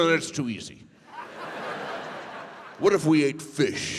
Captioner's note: audience laughs